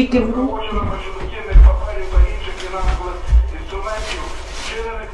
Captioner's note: radio